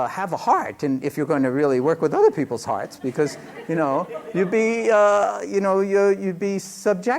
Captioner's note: laughter